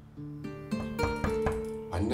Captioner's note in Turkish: Kapı Tıklatılıyor